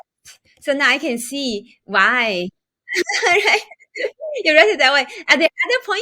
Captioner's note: laughs